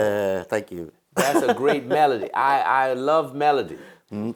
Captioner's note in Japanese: 笑い